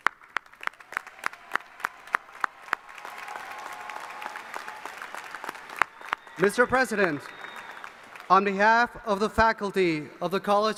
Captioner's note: applause